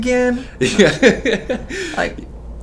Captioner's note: laughs